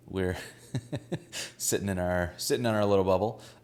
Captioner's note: laughs